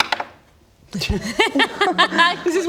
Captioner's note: giggles